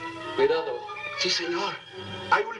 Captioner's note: speaking spanish